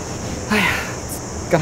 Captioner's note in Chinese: 嘆氣聲